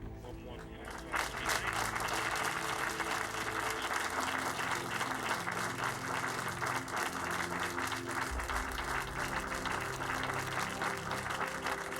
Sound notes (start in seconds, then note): 1.0 all clapping